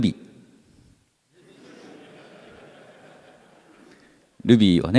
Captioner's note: laughter